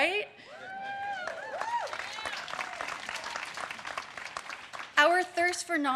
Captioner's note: audience cheers and claps